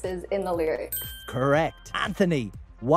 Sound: bell dings

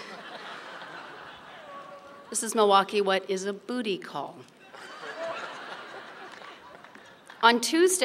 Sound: laughter; laughter

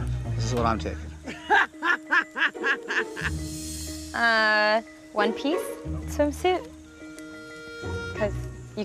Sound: laughing

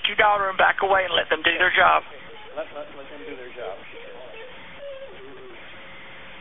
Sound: crying

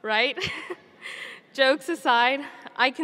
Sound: chuckles

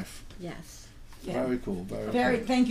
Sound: voiceover

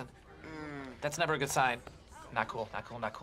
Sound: TROY goes mmh

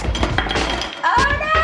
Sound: crashing

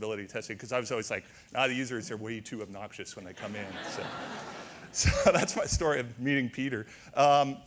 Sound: audience laughter

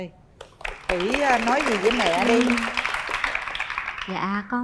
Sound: clap

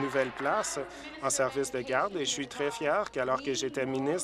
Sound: applause

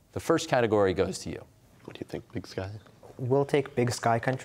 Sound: quietly

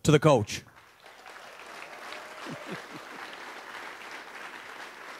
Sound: audience applauds

